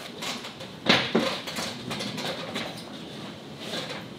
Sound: ladder creaking

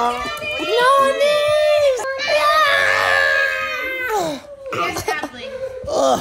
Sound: all screaming

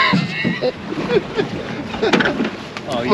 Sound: laughing

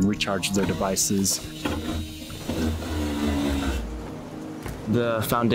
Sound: drill whirring

